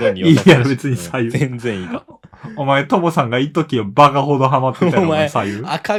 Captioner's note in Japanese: 笑い